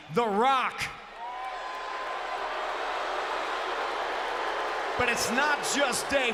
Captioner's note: applause